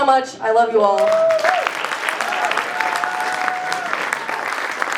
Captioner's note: cheering, applause